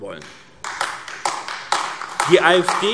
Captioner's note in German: Beifall AfD